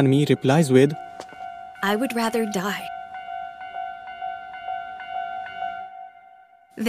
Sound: train signals ringing

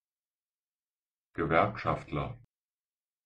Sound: fast Pronunciation

